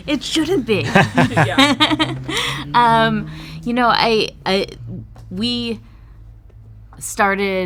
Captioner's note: laughing